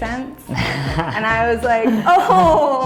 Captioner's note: host laughs